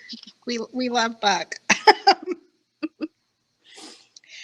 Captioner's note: both laughing